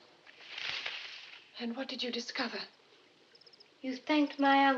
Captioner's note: rustling